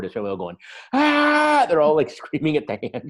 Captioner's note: yelling